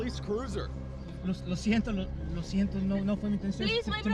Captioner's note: spanish